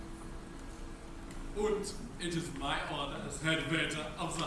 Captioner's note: German accent